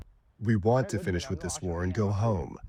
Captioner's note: through translator